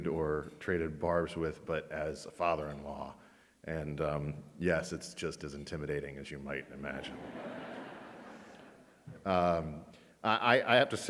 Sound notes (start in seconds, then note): 6.9 audience laughs